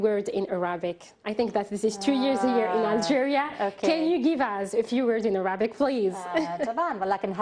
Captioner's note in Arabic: تتحدث الإنجليزية